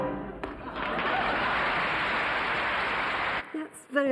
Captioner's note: audience applauding